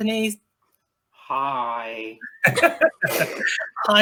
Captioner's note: laughter